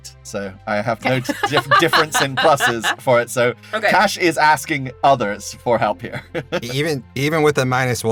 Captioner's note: laughs